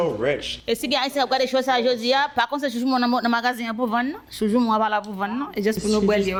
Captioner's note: speaking in foreign language